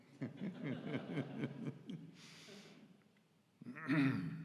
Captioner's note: audience laughs